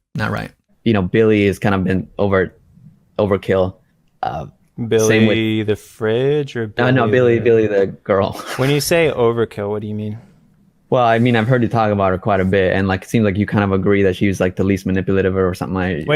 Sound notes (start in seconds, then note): 8.2 laughs